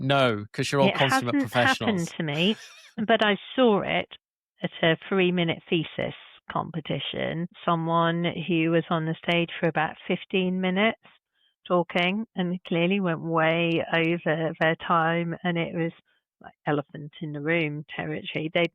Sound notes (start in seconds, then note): 0.6 chuckles